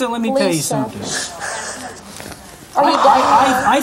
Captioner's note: sobbing